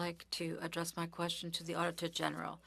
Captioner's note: speaking French